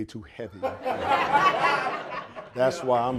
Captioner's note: audience laughing